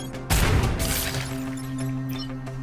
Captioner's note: intriguing dramatic music; techno chiming music; intriguing dramatic music; explosion booming; fire crackling; techno chiming music